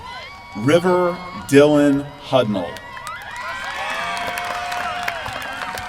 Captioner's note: applause